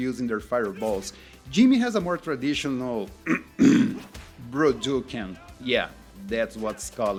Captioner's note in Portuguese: limpa a garganta